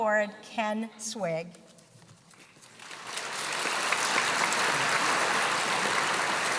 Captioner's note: applause